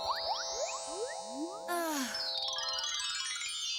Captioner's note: sigh